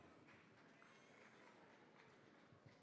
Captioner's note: applause